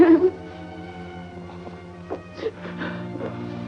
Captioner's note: crying